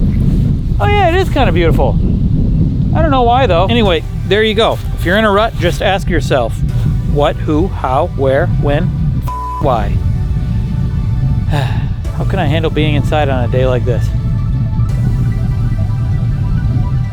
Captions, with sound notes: Fair enough. Oh yeah, it is kind of beautiful. I don't know why though. Anyway, there you go. If you're in a rut, just ask yourself what, who, how, where, when, (beep) why. How can I handle being inside on a day like this.